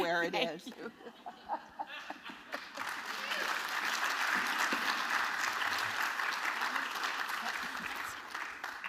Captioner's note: laughter